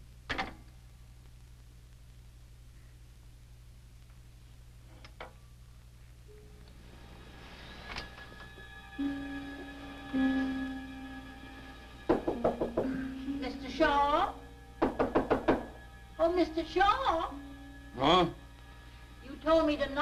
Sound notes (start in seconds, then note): 6.7 soft dramatic music; 12.0 door knocking; 14.8 door knocking